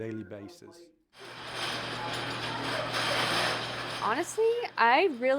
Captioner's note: kitchen movement and chatter